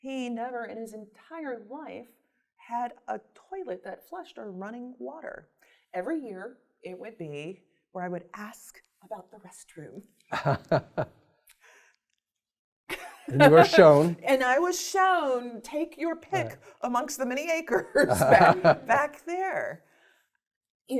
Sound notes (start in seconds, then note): 12.9 laughs